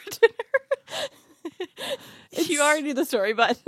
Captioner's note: laughs